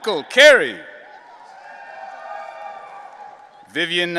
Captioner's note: audience cheering